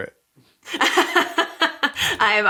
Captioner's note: laughs